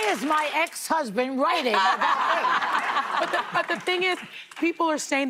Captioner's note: applause